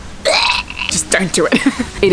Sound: vomit sound

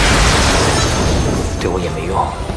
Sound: spark of Electricity

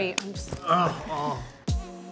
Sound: Anthony grunts; mellow music

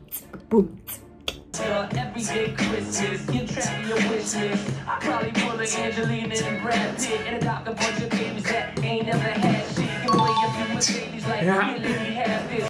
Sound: beatboxing

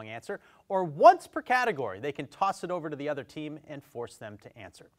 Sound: none

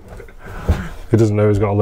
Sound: laughing

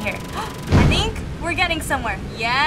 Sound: gasps

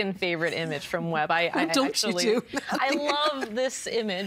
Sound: laughing

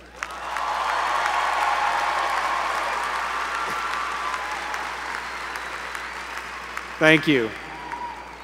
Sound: applause

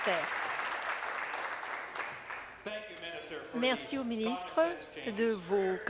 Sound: applause

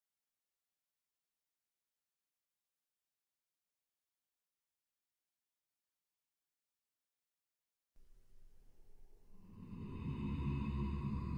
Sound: sound of monster hissing and growling

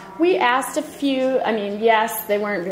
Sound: voiceover

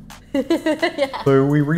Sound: laughing

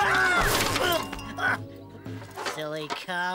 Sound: crash!

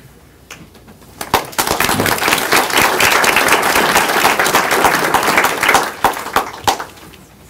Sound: applause

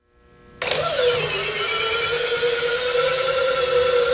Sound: motor whirring

